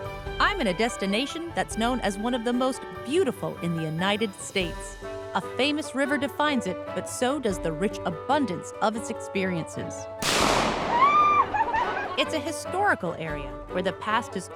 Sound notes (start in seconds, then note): 10.2 gunshot; 11.3 laughs